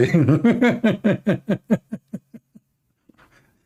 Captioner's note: Ketawa